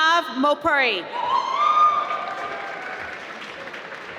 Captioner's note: applause